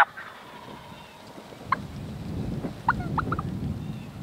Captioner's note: turkey gobbling